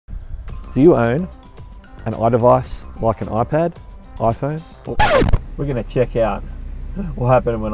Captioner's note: record needle scratch